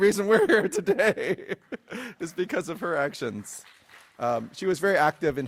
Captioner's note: laughs